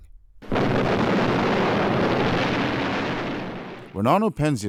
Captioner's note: explosion